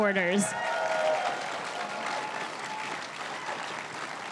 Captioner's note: crowd cheering and applauding